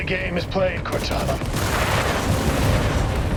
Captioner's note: projectile booms